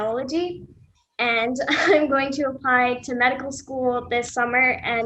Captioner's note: laughing